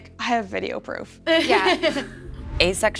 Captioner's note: laughs